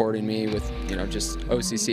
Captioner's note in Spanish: hablan inglés